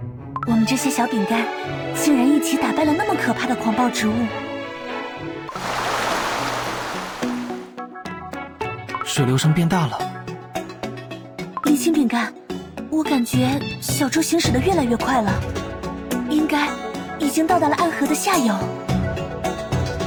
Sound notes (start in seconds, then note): 5.5 gurgle gurgle gurgle